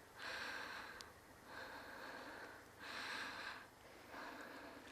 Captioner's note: insects chirping